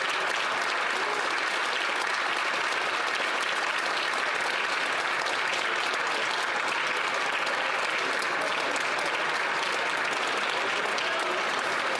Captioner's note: some Applause